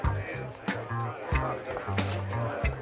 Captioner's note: people chattering